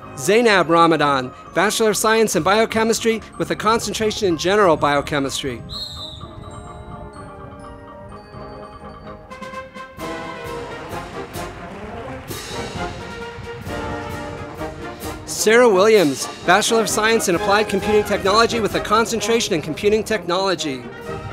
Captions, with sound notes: Zeinab Ramadan, Bachelor of Science in Biochemistry with a Concentration in General Biochemistry. (audience applauding) Sara Williams, Bachelor of Science in Applied Computing Technology with a Concentration in Computing Technology.